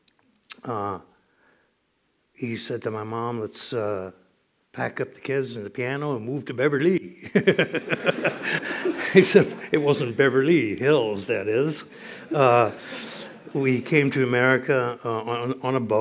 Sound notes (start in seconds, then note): 7.2 laughter